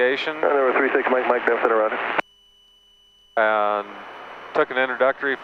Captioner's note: man mumbles over radio